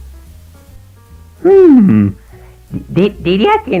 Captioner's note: humming